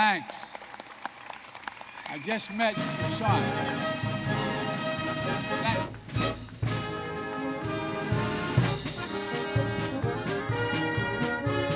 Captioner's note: applause